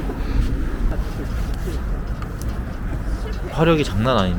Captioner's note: burning bonfire